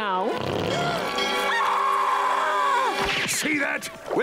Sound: screaming

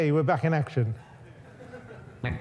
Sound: audience laughs

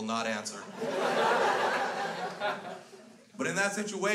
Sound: crowd laughs

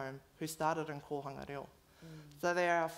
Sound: foreign language

